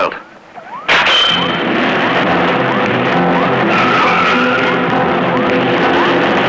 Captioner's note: tires squealing; dramatic music